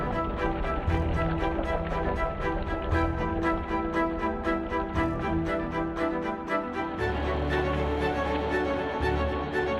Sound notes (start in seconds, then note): 2.2 bright violin music continues; 7.2 water flowing